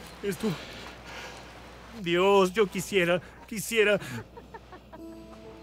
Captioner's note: risas